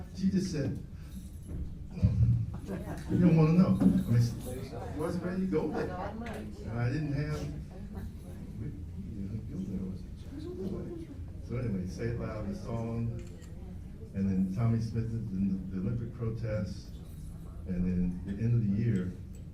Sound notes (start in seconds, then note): 1.6 sighs